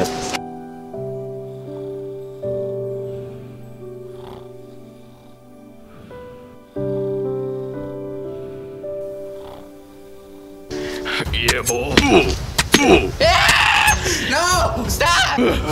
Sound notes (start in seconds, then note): 0.0 sad Music; 12.4 dramatic Music; 13.2 Farquaad Screaming